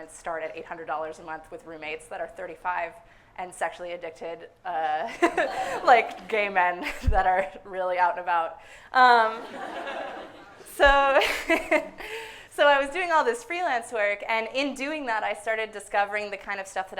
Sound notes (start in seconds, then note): 5.2 laughs; 6.1 suppressed laughter; 9.3 audience laughs; 9.3 laughs